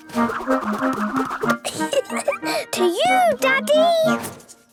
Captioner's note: giggling